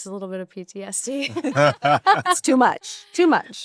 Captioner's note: laughter